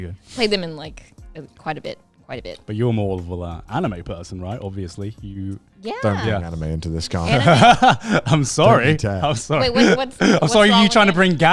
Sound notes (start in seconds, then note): 7.2 laughs